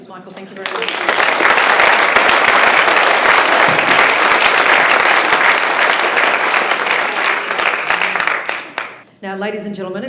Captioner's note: applause